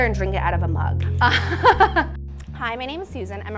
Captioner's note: laughs